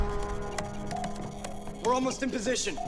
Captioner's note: typing